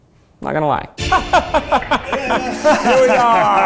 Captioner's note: laughing